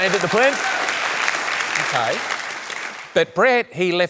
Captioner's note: cheering, applause